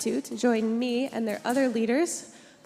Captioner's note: none